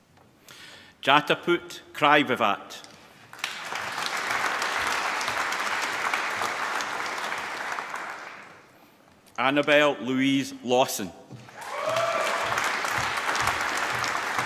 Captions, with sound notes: Jatupat Kraiwiwat. (APPLAUSE) Annabel Louis Lawson. (APPLAUSE)